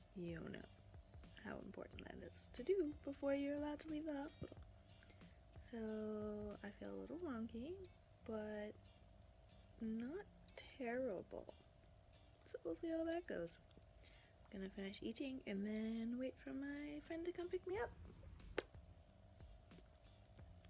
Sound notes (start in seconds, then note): 10.1 mumbles; 19.5 smacks lips